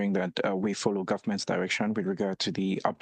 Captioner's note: speaking French